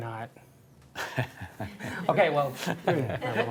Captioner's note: chuckling